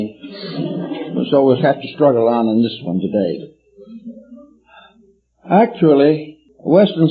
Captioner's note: laughter